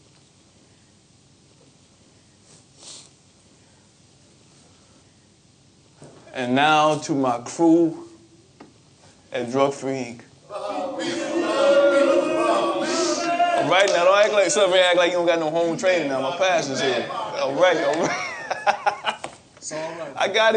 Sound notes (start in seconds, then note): 10.4 chanting; 19.4 laughing